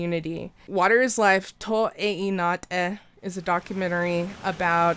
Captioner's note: speaks in foreign